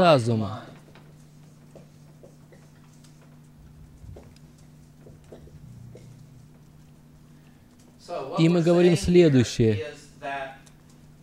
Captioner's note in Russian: звук написания на белом доске